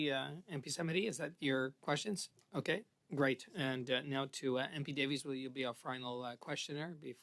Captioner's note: speaking French